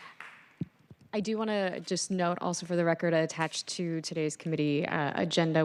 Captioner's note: applause